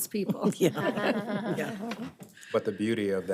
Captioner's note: laughs